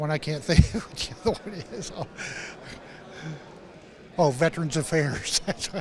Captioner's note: chuckles